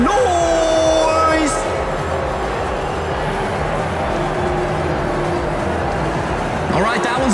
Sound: incredibly loud booing

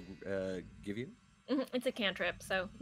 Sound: spell twinkling

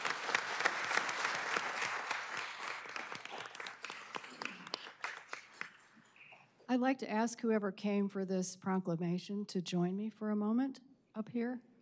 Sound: applause

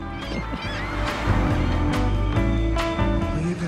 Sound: seagulls crying; upbeat music continues

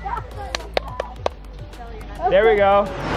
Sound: claps

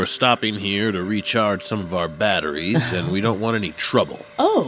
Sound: laughs

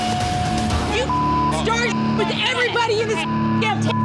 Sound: beep

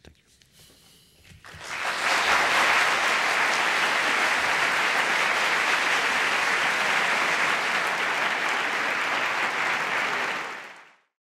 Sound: applause

